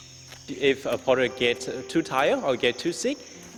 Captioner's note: birds chirping